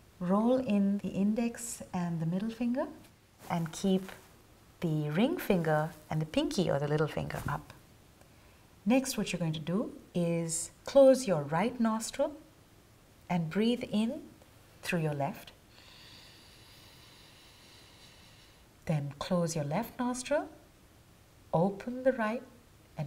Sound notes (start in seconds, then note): 15.7 inhaling